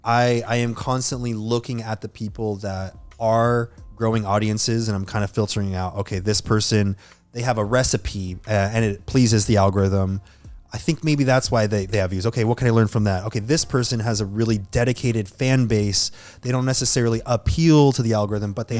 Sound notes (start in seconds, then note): none